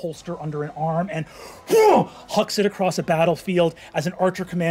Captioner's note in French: grogne